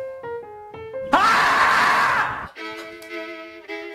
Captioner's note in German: Lauter Schrei; Unheimliche Musik